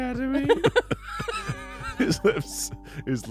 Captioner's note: everyone laughs